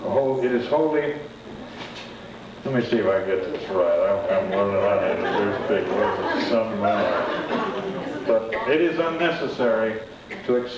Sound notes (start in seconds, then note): 4.3 laughter